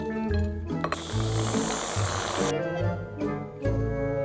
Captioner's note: can spraying